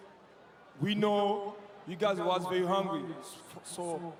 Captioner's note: cheering